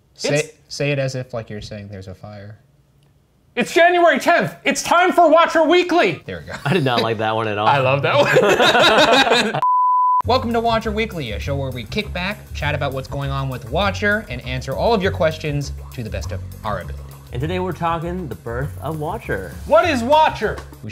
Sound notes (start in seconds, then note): 6.2 laughs; 8.1 all laughing